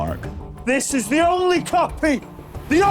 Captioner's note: shouting